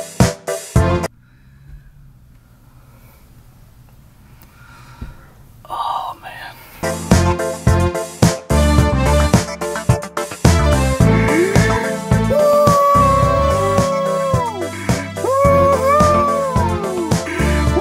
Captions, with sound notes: *sounds of mental fatigue* Oh, man. *sounds of a grown man yelling "woo-hoo" into a microphone in his attic... alone."